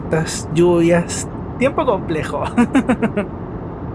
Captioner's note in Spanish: risas